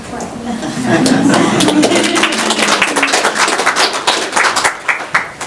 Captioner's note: chuckles and applause